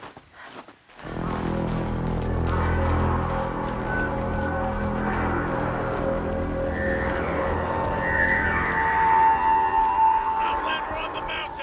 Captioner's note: horn blares